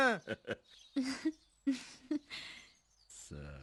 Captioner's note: chuckling